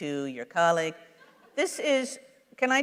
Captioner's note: laughter